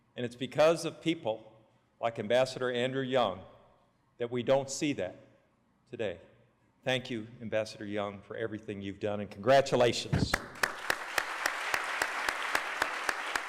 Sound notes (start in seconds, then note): 10.3 applause